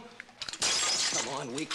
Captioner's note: glass breaks